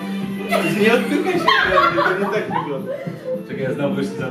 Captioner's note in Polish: śmiech